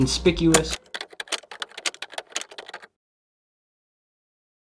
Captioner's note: keyboard clicking